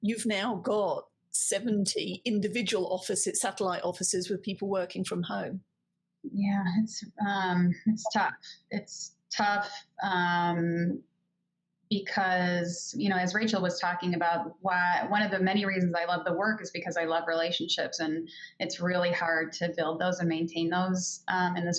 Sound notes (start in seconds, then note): none